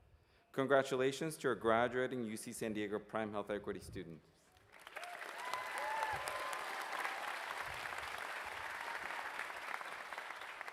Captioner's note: cheers and applause